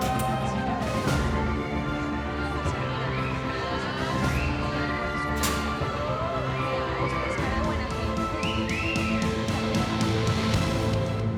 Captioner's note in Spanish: alboroto y silbidos de presas